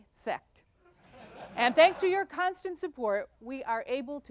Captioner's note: laughter